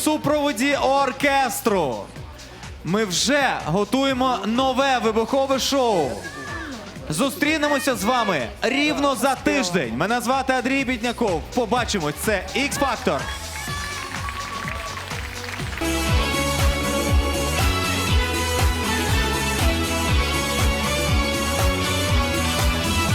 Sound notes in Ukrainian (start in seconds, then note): 13.7 оплески